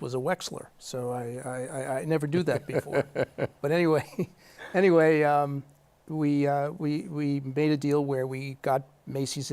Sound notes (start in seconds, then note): 2.4 laughter